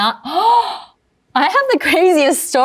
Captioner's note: gasps